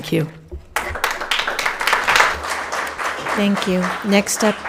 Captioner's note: audience applauding